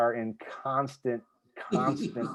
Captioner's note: laughter